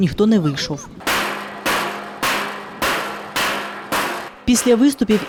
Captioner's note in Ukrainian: звук ударів по металевій бочці